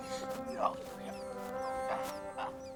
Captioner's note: dog whimpers